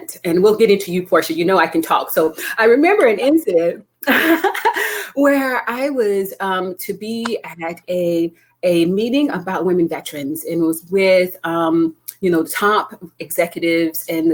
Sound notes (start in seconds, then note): 4.1 laughing